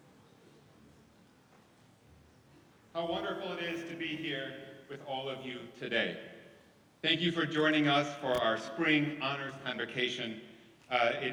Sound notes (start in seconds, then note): none